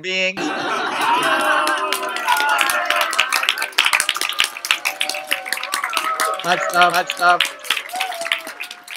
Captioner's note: applause and Cheers